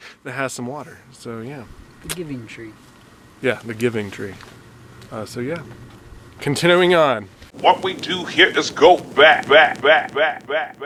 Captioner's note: laughing